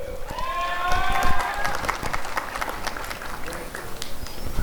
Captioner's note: applause and cheering